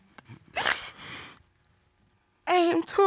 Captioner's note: crying